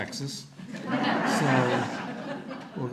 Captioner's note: audience laughter